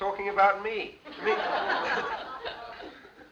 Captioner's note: laughter